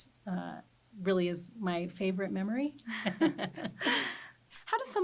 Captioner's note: both chuckle